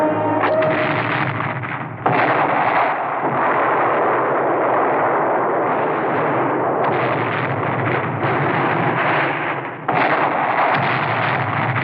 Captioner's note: explosions